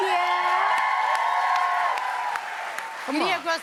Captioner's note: cheers and applause